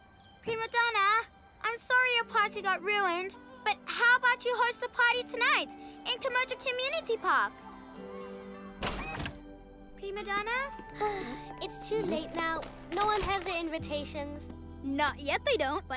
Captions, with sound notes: Primadonna, I'm sorry your party got ruined. But how about you host a party tonight in Kimoja Community Park? - Primadonna? - (Sighs) It's too late now. - No one has their invitations. - Not yet, they don't.